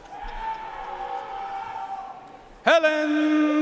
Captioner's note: audience cheering and applauding